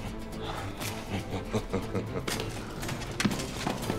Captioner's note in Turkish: Gülme sesi